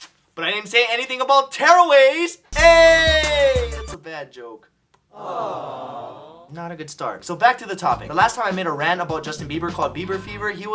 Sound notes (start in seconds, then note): 5.1 crowd goes 'awwww'